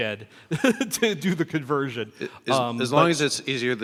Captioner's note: laughs